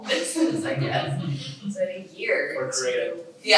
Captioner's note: all laughing